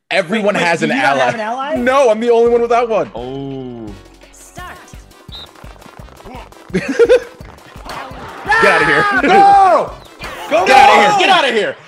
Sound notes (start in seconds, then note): 8.2 laugh